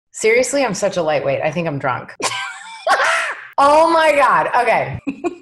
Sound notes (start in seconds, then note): 2.2 laughs